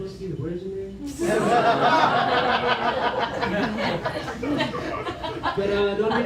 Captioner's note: laughter